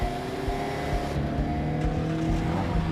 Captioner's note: engine turns over